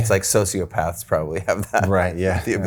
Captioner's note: chuckling